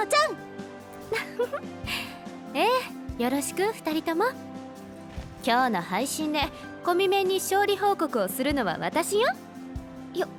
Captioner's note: chuckle